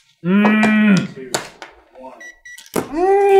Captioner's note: gentle beeping